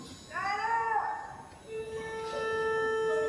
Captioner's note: shouting; orchestra tuning